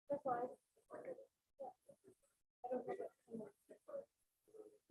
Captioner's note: group chattering